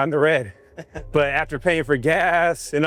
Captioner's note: speaker chuckles